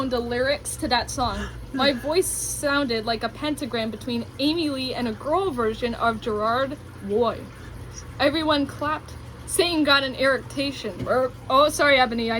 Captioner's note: eructation